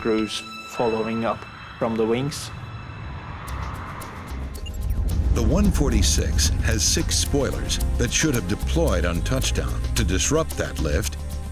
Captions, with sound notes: hoping to skid to a stop. - We're going over! (jet whooshing)